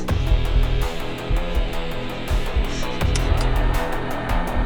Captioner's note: uptempo rock music; heartbeat thumping; button clicks; heartbeat thumping; uptempo rock music